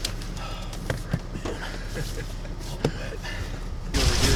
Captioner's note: laughing